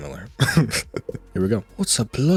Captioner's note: laughs